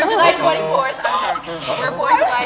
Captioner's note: crowd stirs; laughs